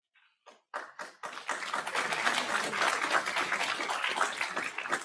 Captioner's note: audience applauds